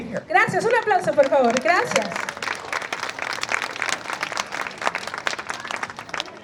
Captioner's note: speaks in foreign language; applause